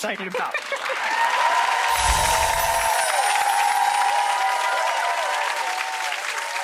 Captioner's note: audience cheers; chime tinkling